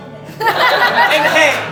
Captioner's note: audience Laughing